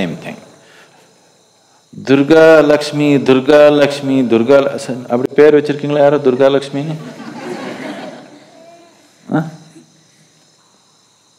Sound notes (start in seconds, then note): 5.7 speaks in Tamil – not transcribed; 6.9 laughter